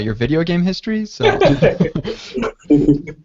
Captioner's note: laughter